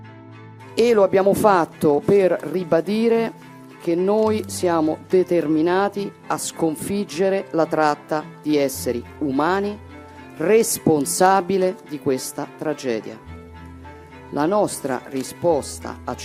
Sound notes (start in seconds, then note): 0.7 Giorgia Meloni, in Italian